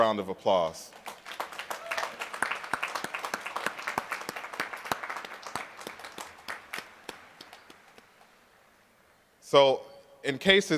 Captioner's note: applause